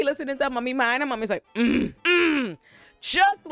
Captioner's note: grunting